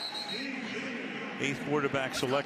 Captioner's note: pa announcement